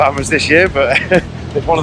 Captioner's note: laughs